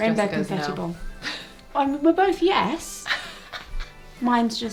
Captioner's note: laughing